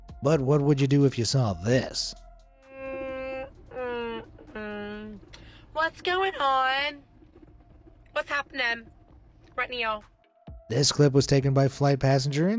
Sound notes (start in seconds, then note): 3.3 passenger humming